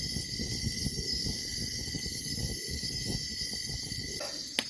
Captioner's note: insects buzzing